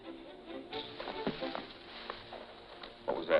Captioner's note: shrubs rustling